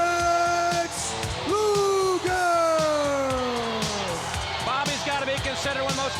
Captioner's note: crowd cheering